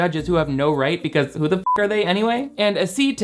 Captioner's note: beep